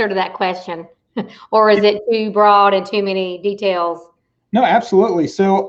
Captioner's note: chuckles